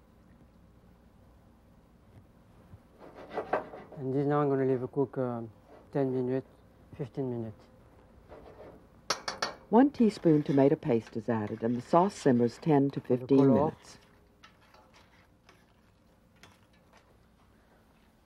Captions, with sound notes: (pan sliding) And then now I'm gonna leave it cook 10 minute, 15 minute. - [Voiceover] One teaspoon tomato paste is added, and the sauce simmers 10 to 15 minutes.